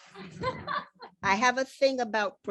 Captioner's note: laughing